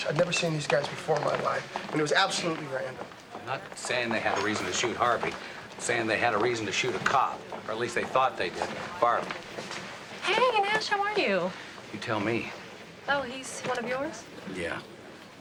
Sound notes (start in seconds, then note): none